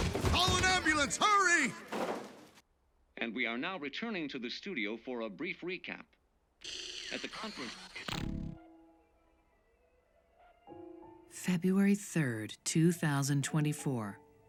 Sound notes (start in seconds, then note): 6.7 static